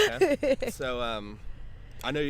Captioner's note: chuckles